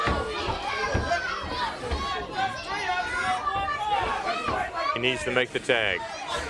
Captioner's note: crowd chatter